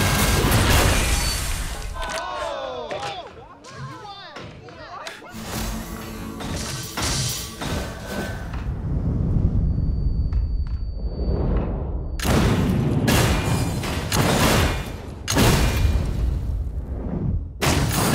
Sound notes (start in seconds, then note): 1.6 crowd; 8.7 wind rushing; 9.5 high pitch frequency resonating; 12.2 guns firing